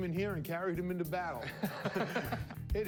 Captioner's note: laughter